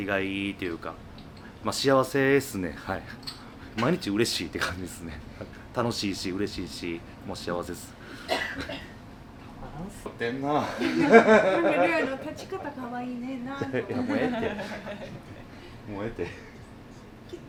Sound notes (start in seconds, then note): 10.6 laugh